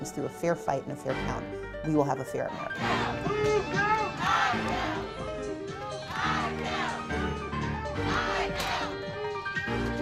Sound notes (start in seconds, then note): 2.7 crowd